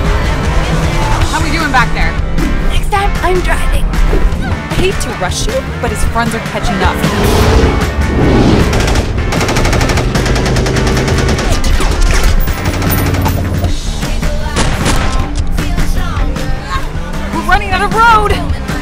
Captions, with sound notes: How we doing back there?! (Choking) Next time, I'm driving. Hate to rush you. But his friends are catching up. We're running out of road!